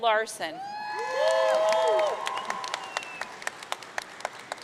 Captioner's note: audience cheering